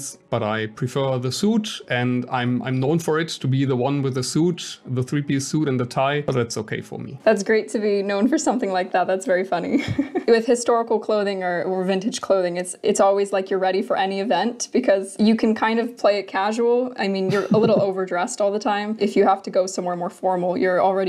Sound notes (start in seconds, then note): 9.9 laughs